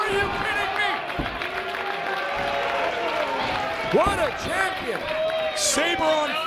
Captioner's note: applause